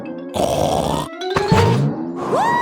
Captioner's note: snorts